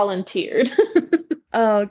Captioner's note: laughs